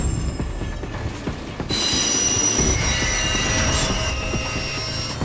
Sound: wheels scraping

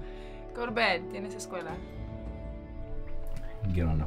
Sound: speaking foreign language

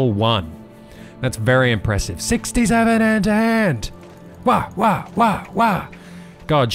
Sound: accurate punching noises

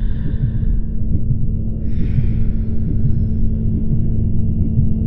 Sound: low electronic tone

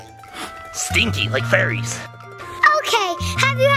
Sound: sniffs

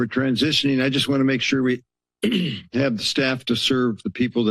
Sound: clears throat

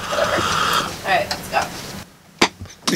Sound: sipping

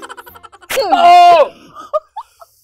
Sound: shout

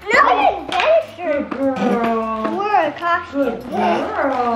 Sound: children chattering

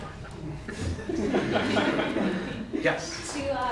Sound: laughter

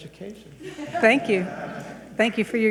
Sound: people chuckle

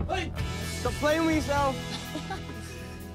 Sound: laughs

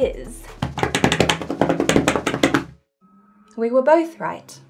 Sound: tapping table

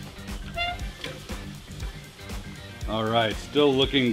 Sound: lid squeaks

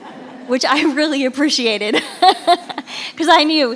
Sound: laughter rings; chuckles

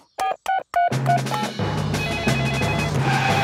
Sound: beeping; phone ringing

